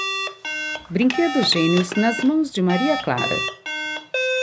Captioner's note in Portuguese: Som do brinquedo